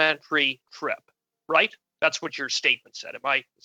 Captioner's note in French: voix de l'interprète